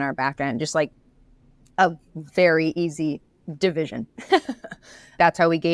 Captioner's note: laughs